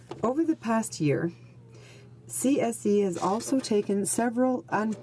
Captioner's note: speaking in french